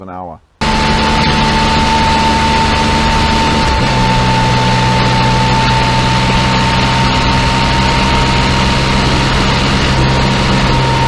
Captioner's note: loud high pitch noise coming from motorcycle